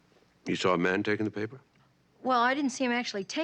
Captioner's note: none